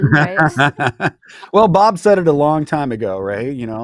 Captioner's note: laughing